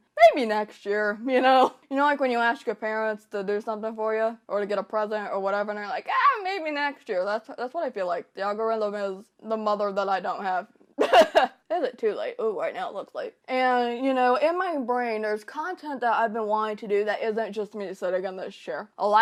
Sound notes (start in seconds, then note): 11.0 laughter